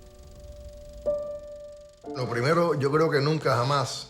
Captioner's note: speaking in Spanish